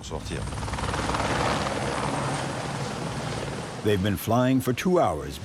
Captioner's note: blades whirring